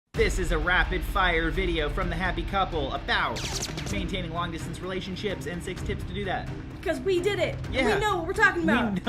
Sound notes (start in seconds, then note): 3.4 rapid gunfire